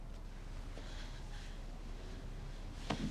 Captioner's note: heavy breathing